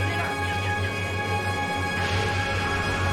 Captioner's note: quick footsteps; jet engine noise, quick footsteps